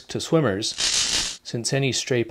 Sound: electricity crackling

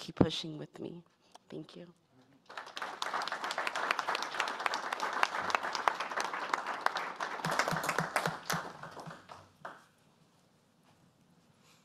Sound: applause

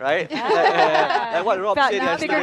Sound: group laughing

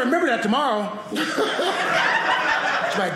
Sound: audience laughing

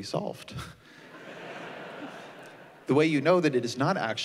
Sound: laughter

